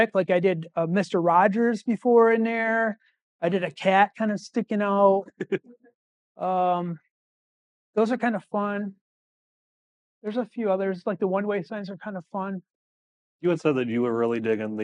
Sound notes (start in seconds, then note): 5.2 laughing